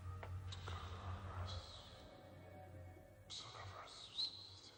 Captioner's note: whispered voices echoing